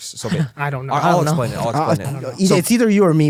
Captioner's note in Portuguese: risos